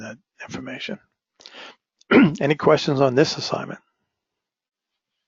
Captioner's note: cough